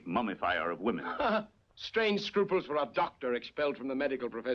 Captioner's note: laughs